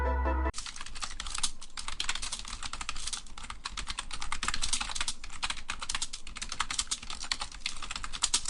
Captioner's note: keyboard Clicking